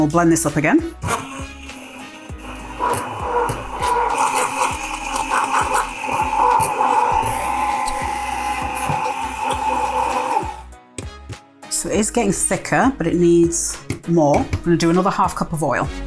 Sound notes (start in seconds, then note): 0.9 blender whirring